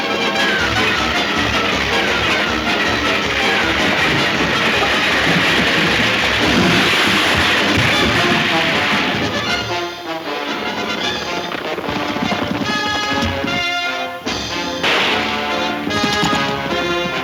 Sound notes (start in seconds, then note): 5.9 water splashing; 7.4 wagon crashing; 10.1 hooves thundering; 14.4 guns firing